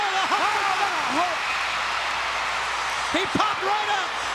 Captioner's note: crowd cheering